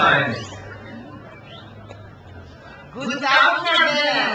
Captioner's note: crowd cheers